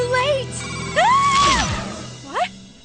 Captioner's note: screams